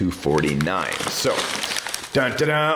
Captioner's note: paper crinkles